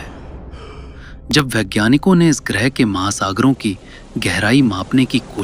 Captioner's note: sudden loud breathing sound